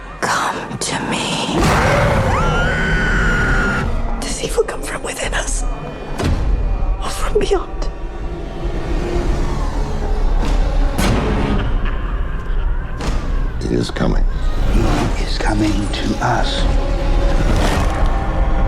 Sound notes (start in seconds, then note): 1.6 screams; 9.4 eerie music; 11.7 sinister snarls; 16.8 crunching sound